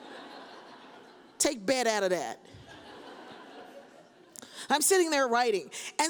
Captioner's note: audience laughs